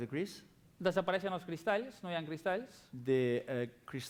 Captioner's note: non-english speech